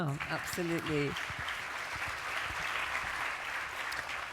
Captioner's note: applause